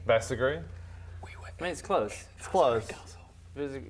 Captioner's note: whispering